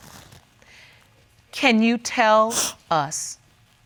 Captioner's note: sniffles